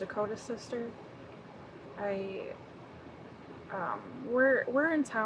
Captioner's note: none